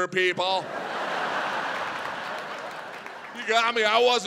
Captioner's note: audience laughs